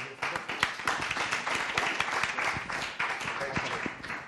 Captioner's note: applause